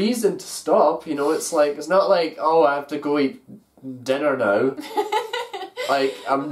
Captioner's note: laughs